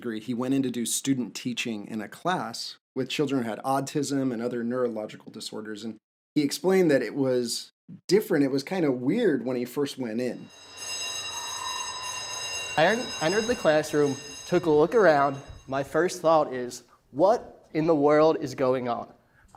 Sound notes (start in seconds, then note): 10.3 bell rings